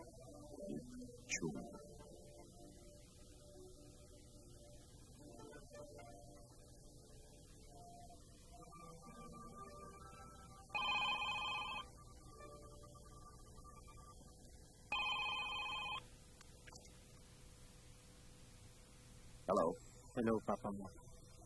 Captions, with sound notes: Juanito Chung. [phone rings] –Hello. -Hello Papa Mo.